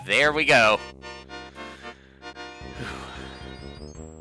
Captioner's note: breathing